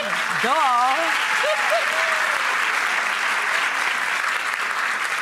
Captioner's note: audience applause